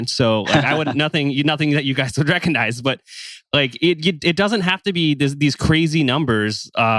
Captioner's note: laughs; laughs